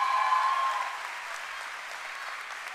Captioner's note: cheering and applause